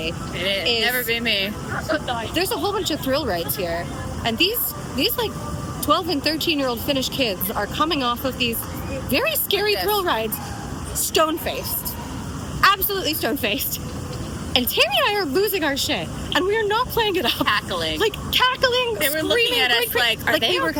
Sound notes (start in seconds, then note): 1.9 hoots; 11.1 hoots; 18.1 hoots